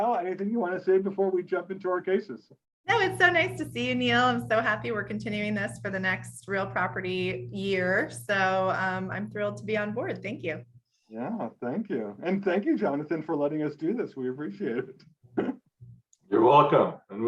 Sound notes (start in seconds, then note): 15.5 chuckles